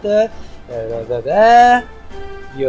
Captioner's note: confusement noises